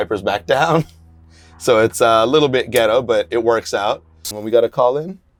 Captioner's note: laughs